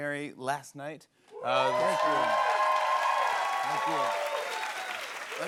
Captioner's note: cheers and applause